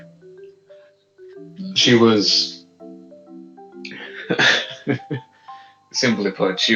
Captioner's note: shy giggles